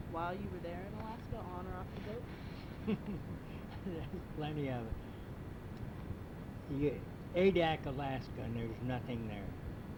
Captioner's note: laughs